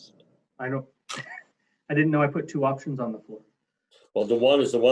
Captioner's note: laughs